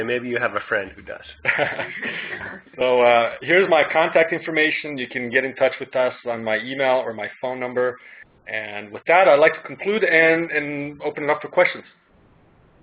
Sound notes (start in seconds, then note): 1.2 everyone laughs